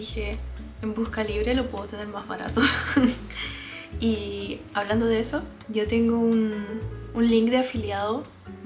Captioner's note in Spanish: risas